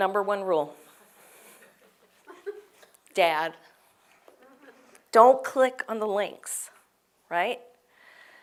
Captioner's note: laugh